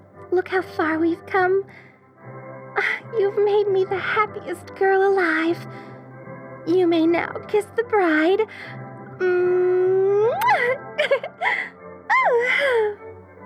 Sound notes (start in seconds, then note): 10.2 kiss noise; 10.9 giggles